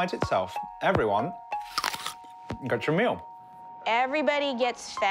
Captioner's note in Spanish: sonido de morder manzana